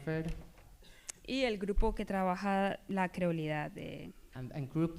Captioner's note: speaking spanish